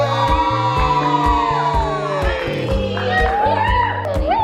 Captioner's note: family cheering